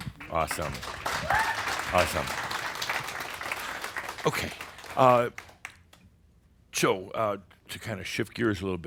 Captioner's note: audience applause